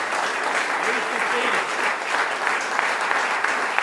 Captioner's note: applause